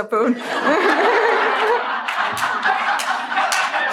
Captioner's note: laughing